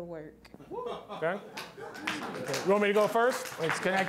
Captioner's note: applause